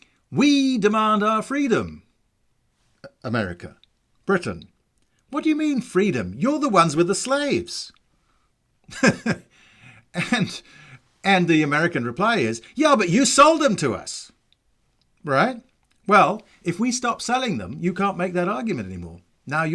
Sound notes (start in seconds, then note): 8.8 chuckles